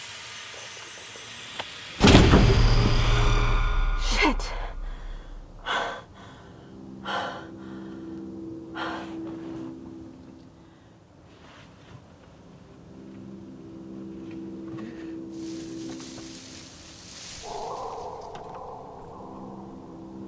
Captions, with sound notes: - Stupid thing. (branch thudding) Shit! (panting) (tense music) (branches rustling) (wind whistling)